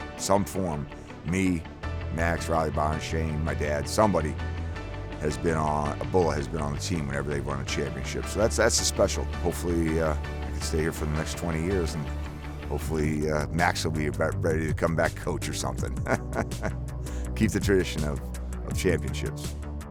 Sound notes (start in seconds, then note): 15.8 laughs